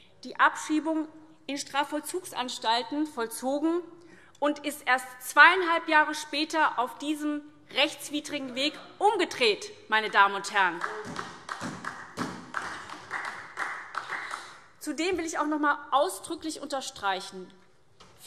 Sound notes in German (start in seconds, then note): 10.6 Beifall SPD